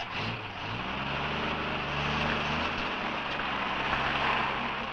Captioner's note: engine rumbling